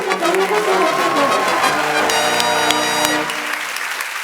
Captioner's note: cheering and applause